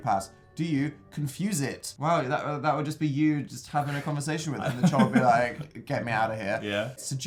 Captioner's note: chuckles